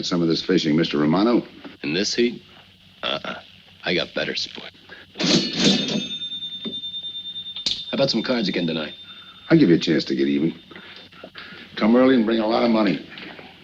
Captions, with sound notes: at some of this fishing, Mr. Romano? - In this heat? Uh-uh. I got better sport. (cash register ringing) How about some cards again tonight? - I'll give you a chance to get even. Come early and bring a lot of money.